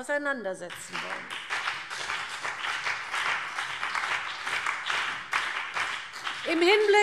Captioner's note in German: Beifall